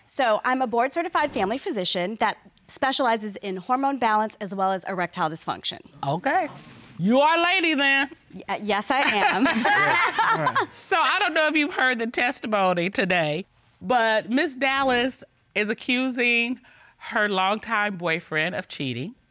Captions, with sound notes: So, I'm a Board Certified Family Physician that specializes in hormone balance as well as erectile dysfunction. Okay. You're our lady then. -Yes, I am. -[all laugh] So, I don't know if you heard the testimony today. But Ms. Dallas is accusing her longtime boyfriend of cheating.